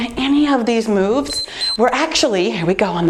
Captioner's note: timer beeps